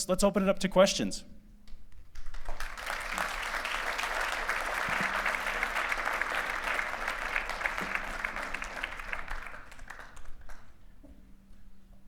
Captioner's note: applause